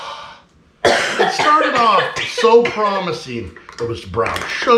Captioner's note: coughing